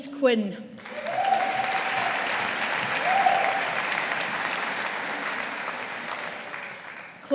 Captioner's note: audience applauding